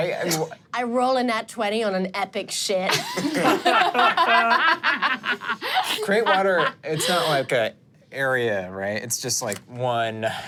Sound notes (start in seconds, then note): 3.2 everyone laughs